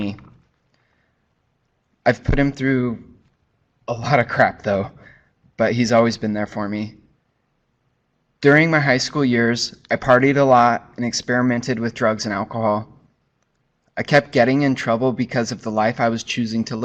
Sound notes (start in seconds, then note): none